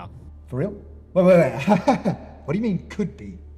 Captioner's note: laughs